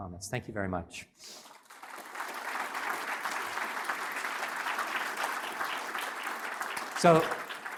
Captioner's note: applause